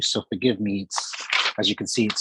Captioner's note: papers rustling